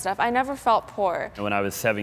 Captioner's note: none